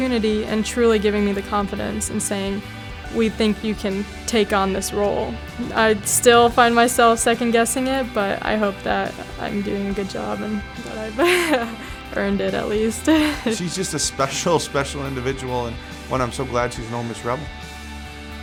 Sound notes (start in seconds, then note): 11.1 laughs